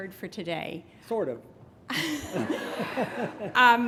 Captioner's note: laughter